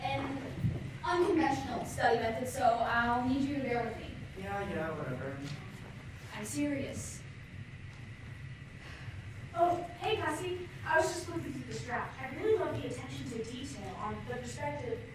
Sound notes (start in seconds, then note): none